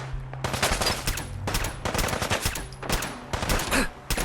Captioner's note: gunshot firing; player grunts